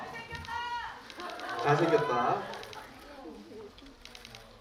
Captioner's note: laughs